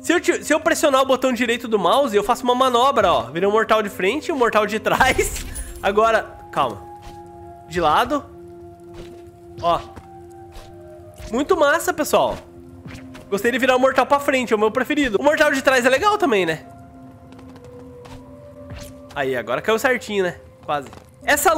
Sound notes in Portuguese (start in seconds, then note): 5.9 risos